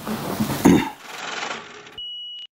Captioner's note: film reel whirring